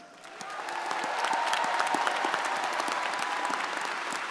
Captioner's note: crowd cheering